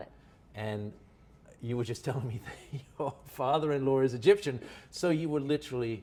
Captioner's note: laughs